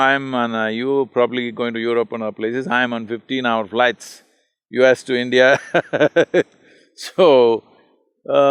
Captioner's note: laughs